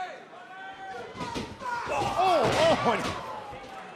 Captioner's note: cheers and applause